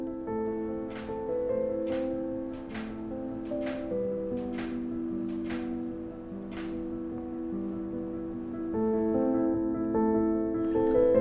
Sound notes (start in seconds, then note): 1.8 clicking